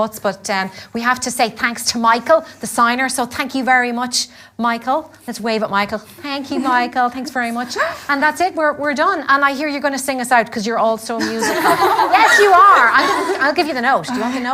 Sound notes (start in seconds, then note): 11.2 girls laugh